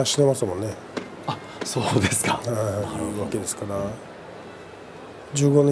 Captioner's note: laughs